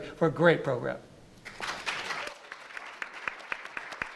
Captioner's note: clapping